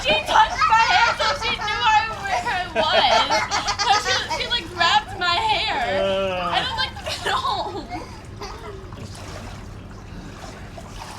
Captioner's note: laughter